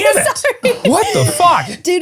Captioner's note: laughing